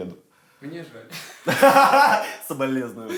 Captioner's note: all laugh